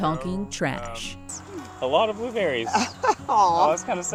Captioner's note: laughing